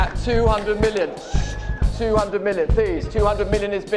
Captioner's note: gasps and applause continue